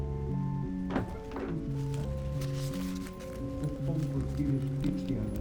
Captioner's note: man talking in unknown foreign language